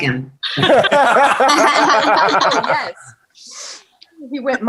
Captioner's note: everyone laughing